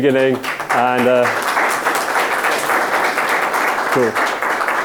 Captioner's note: audience clapping